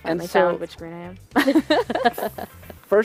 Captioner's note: laughter